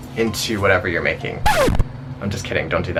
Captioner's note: record scratching